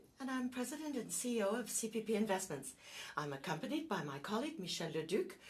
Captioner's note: speaking French